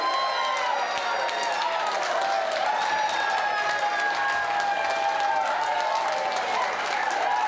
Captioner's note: boisterous cheering